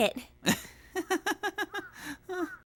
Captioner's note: Kazuto chuckles